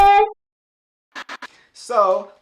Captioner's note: static sound